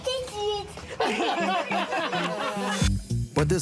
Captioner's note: laughter